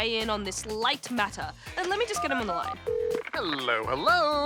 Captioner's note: phone beeps, rings